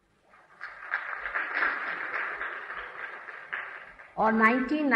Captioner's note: thunderous applause